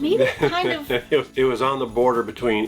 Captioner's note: laughing